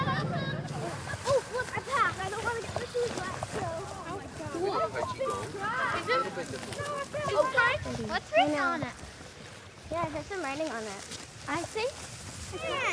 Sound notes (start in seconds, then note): 4.3 children chattering